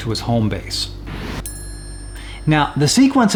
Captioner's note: whirling and single ring